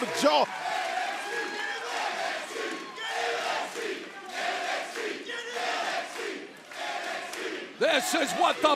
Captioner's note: crowd cheering